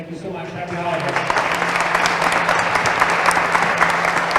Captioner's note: applause